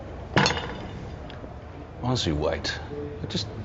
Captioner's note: slams